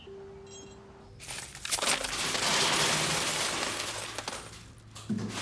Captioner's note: coins rattling